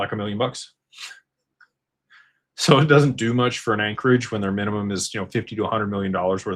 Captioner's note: snorts